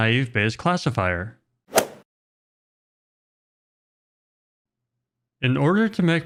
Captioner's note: golf swing sound effect